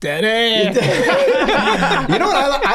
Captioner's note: gang laughing